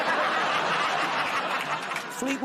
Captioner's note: laughter